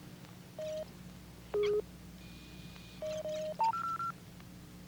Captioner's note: machine beeping